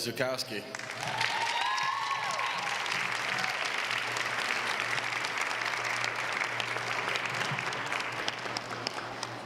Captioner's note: applause